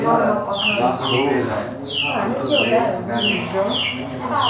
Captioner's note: chattering